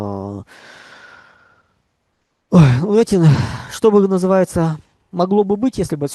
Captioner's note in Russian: вздыхает